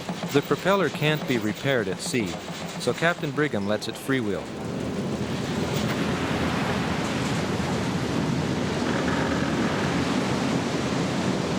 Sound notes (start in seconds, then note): 0.0 bridge rattling; 5.9 ice creaking; 5.9 water rushing